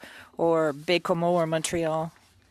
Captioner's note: speaking French